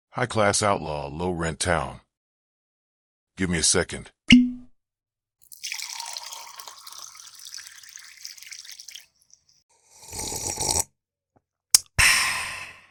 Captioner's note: sound of bottle opening and drink pouring, DJ takes a drink